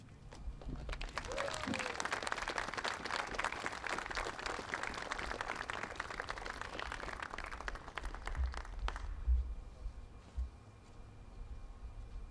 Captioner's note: applause